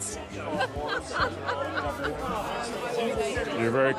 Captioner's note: interviewer laughing